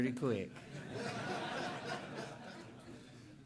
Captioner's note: laughter